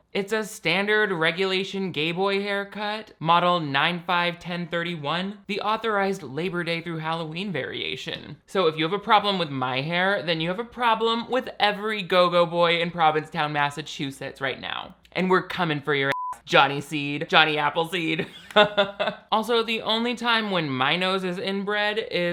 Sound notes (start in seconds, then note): 16.1 beeps; 18.2 laughs